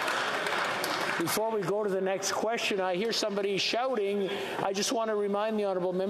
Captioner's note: yelling